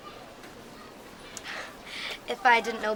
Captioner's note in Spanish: se ríe